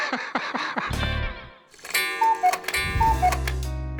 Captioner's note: rick laughs; cuckoo clock chimes